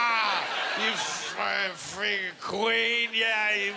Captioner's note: slurring